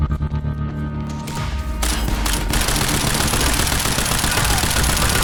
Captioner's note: none